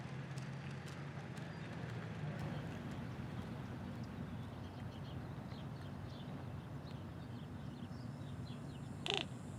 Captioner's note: birds and wildlife sounds